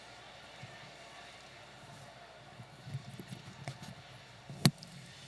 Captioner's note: audience chattering